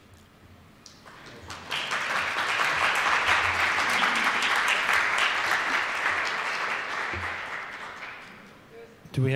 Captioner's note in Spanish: Aplausos